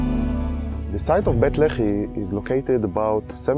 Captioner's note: voiceover